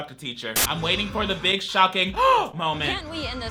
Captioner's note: gasps